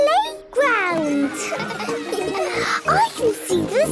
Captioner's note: children laughing